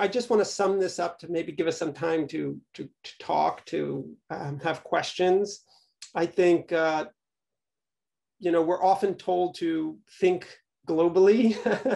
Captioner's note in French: rires